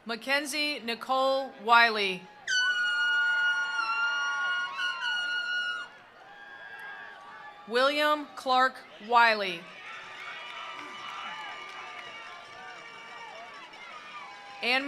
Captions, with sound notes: Mackenzie Nicole Wiley. (attendees applauding) (attendees cheering) William Clark Wiley. (attendees applauding) (attendees cheering)